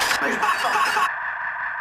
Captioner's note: metal clanging